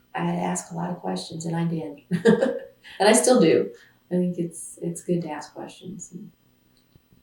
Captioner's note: laughs